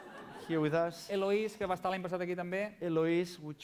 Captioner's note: non-english speech